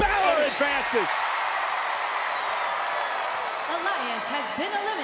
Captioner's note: crowd cheers